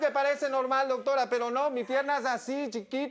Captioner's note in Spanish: Risas del público